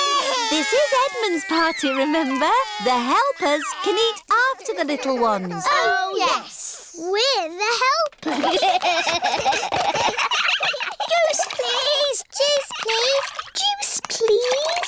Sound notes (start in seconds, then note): 0.0 babies crying; 8.2 all giggling